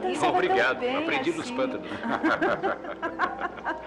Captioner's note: laughing